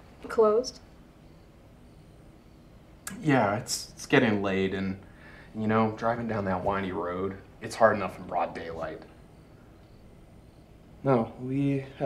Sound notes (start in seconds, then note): 1.0 crickets chirping; 9.2 crickets chirping